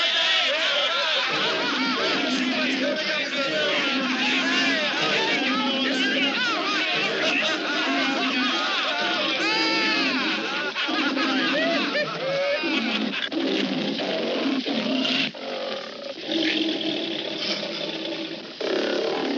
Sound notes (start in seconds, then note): 0.0 laughter; 1.3 roaring